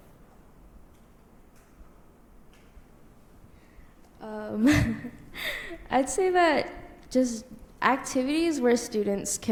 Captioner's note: laughs